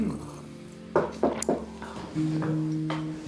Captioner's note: knock at door